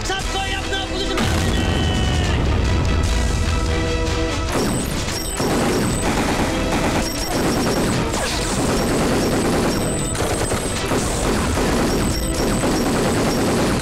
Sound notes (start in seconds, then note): 4.5 Rapid gunfire